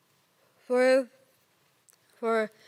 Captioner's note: rustling